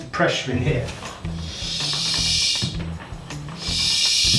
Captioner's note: air pumping